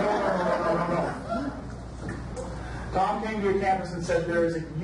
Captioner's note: audience laughs